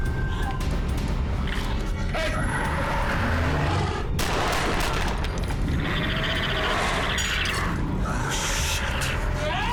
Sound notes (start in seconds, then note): 2.2 roars